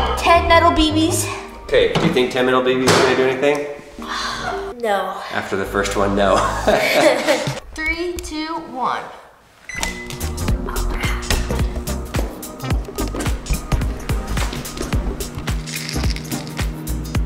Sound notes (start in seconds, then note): 0.0 upbeat music; 4.0 sighs; 6.3 both laughing; 11.6 upbeat music